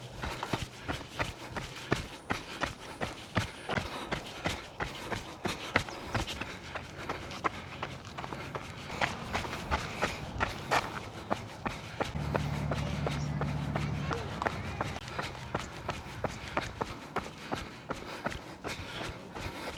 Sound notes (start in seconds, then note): 5.4 footsteps